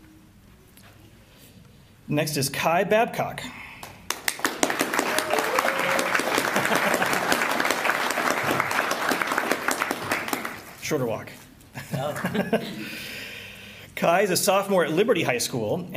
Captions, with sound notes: Next is Kai Babcock. [APPLAUSE] [LAUGHTER] Shorter walk. [LAUGHTER] Kai is a sophomore at Liberty High School,